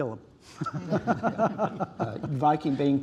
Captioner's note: laughter